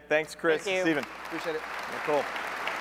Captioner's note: applause